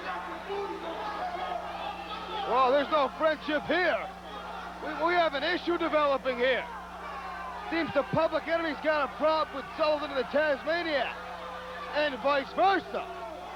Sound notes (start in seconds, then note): 4.4 crowd chatter